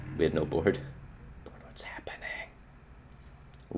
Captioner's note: whispering